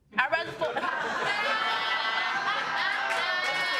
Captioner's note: audience laughing